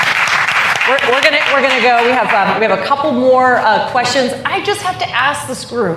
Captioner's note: applause